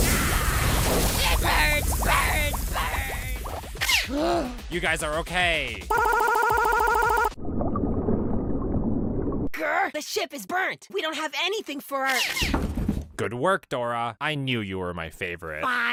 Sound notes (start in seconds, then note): 4.1 gasp